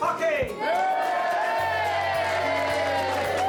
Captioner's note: cheering